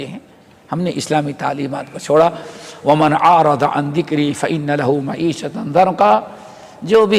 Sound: in Arabic

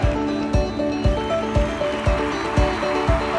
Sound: crowd applauding; upbeat music

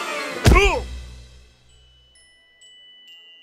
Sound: grunts

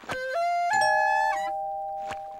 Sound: doorbell ringing

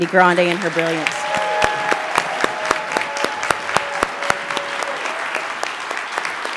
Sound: audience applauds and cheers

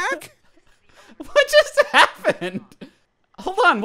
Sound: laughs

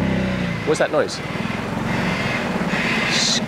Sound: bird screeching

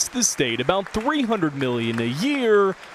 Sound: applause

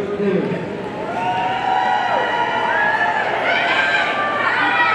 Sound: audience cheering

